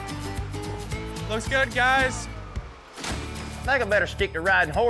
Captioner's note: splash